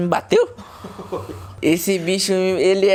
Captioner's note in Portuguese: risadas sadicas